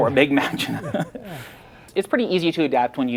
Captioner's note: both laughing